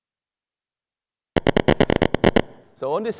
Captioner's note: rhythmic tapping